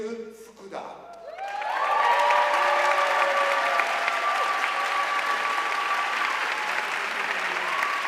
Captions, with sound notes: Miyu Fukuda (audience cheering and applauding)